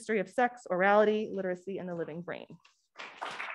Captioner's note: applause